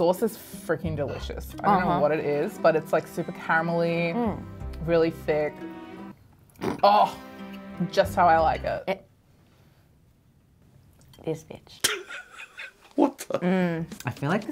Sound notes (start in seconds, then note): 6.6 snorts; 11.9 laughing